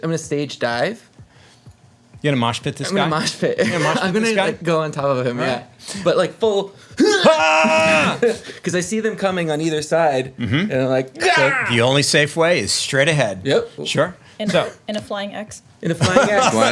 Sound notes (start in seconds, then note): 7.0 groans; 7.7 yelling